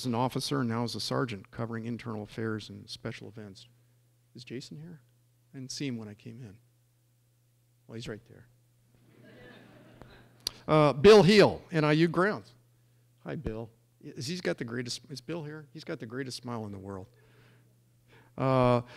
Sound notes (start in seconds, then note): 9.1 laughing